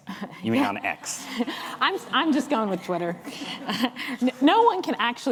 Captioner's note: laughs